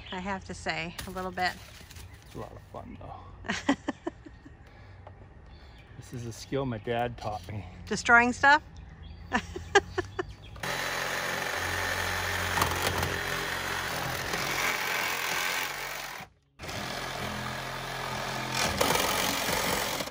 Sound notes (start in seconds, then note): 3.4 wife laughs; 9.2 wife laughs; 10.5 hand saw buzzing